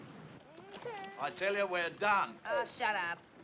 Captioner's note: Criança Soluçando